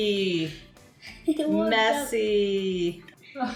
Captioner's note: giggles